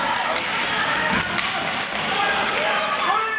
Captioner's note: crowd yelling